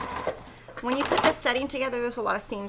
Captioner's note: machine sewing